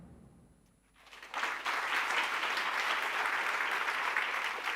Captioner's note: applause